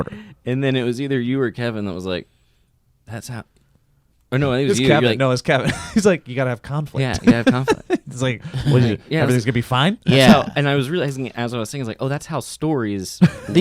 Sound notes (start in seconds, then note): 7.0 laughs